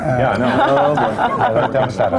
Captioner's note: laughter